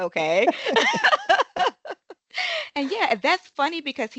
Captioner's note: laughing